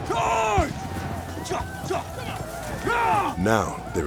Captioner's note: yells